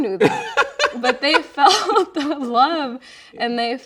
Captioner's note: laughing